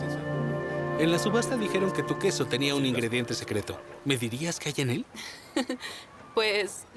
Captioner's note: laughs